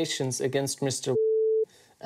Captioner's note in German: Piepton